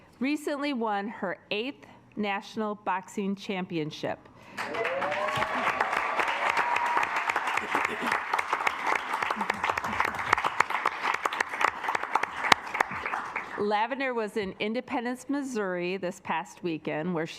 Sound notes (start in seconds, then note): 4.5 assembly cheering; 4.6 assembly clapping